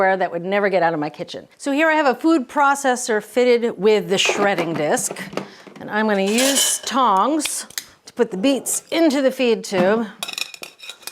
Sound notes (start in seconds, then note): 6.2 metal clanging; 10.2 metal clanging